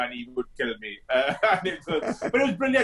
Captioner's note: both laughing